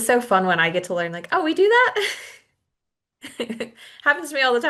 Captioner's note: chuckles